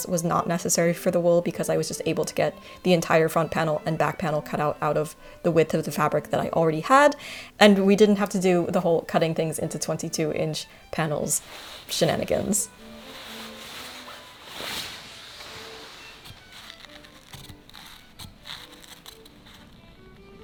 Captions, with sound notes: was not necessary for the wool because I was just able to get the entire front panel and back panel cut out of the width of the fabric that I already had, and we didn't have to do the whole cutting things into 22 inch panels shenanigans. (silk rustling) (lively music)